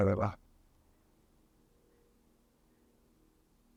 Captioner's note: pauses 6 seconds